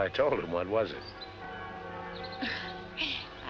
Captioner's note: church Bells